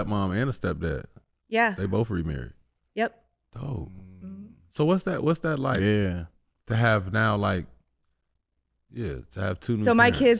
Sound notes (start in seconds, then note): none